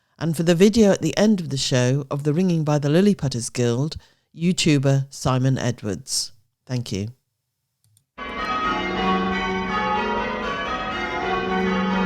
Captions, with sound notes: And for the video at the end of the show of the ringing by the Lilliputter's Guild YouTuber, Simon Edwards. Thank you. [bells ringing call changes]